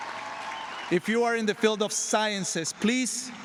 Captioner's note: applause